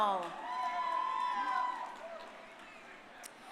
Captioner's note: crowd cheering